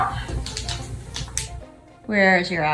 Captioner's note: faint sound of Bunny walking; background music